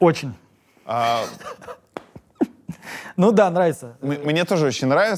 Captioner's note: laughs